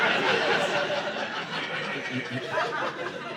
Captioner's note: audience laughing